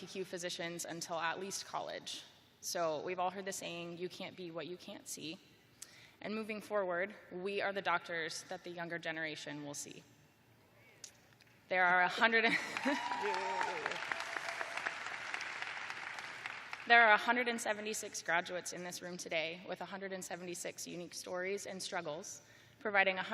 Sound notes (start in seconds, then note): 12.5 chuckling; 12.6 applause